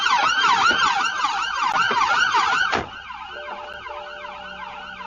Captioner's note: car door opens and closes